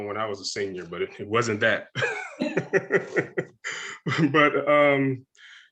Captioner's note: all laughing